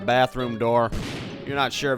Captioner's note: boooom